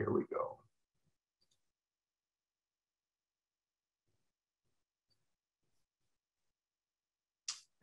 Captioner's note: silence